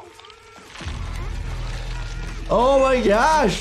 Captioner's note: muffled shouting